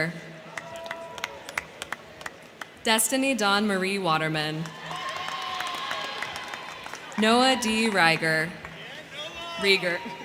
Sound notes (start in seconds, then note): 0.3 crowd cheering; 0.4 crowd clapping; 4.5 crowd clapping; 4.6 crowd cheering; 10.0 crowd clapping